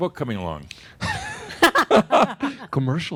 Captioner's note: laugh